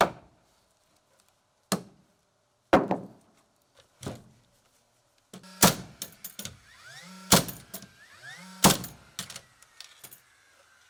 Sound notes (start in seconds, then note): 0.1 hammer banging; 5.9 nail gun popping